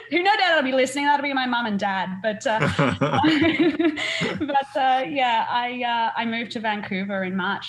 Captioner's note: laugh